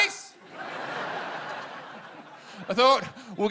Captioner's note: laughter